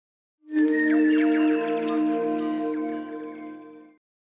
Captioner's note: birdsong